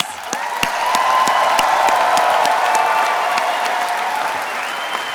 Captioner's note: attendees applauding and cheering